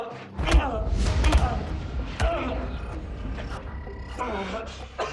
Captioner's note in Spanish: Quejidos; Golpes